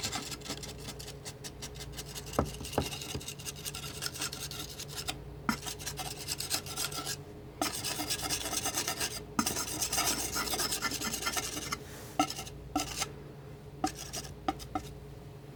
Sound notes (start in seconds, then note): 0.0 scratching; 13.8 scratching